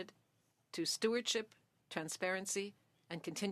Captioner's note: speaking French